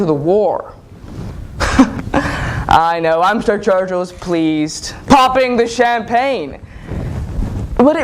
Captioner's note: chuckle